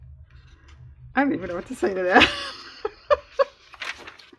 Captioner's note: laughs